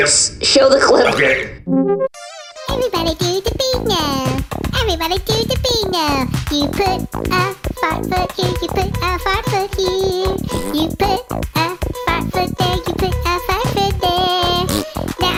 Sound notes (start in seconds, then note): 2.7 screen hums; 4.5 singing; 10.0 fart; 14.8 fart